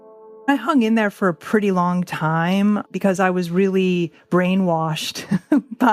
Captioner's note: laughs